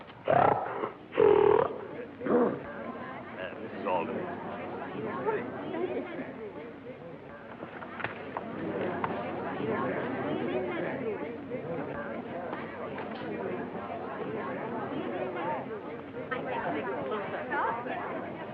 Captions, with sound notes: [pig snorts] -Eh, Mrs.Alden. -Thank you. [chatter]